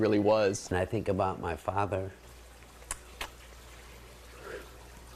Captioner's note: exhales